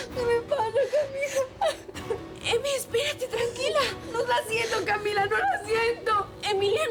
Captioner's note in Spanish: llanto; llanto